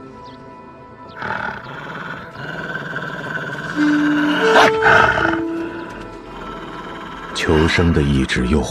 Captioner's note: the roar of snow leopard